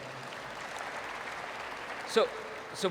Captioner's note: applause